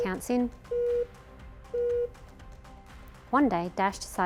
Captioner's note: app beeping